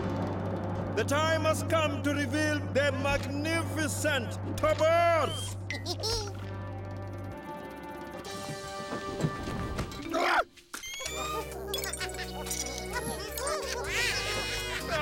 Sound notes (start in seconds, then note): 4.1 chuckling; 9.5 Bongolalas chuckling